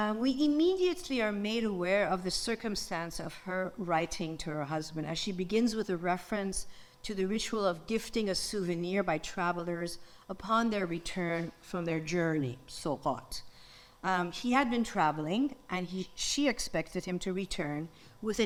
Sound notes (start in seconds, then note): 12.7 speaks in foreign language